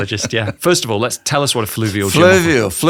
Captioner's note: laughs